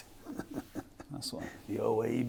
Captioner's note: laughs